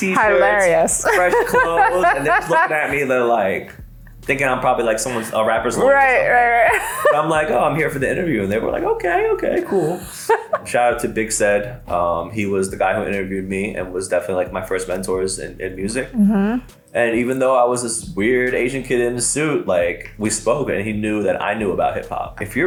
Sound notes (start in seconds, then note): 6.4 laughs